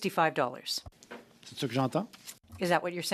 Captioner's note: speaking French